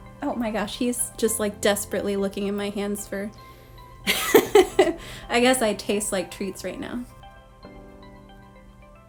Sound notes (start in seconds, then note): 4.1 laughing